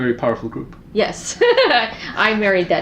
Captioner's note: laughing